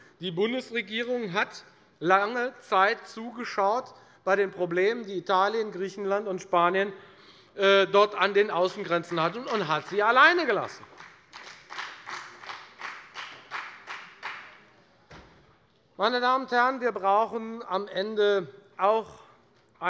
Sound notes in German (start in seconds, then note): 10.8 Beifall bei der FDP